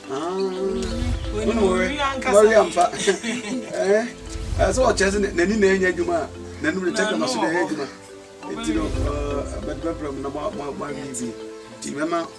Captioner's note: laugh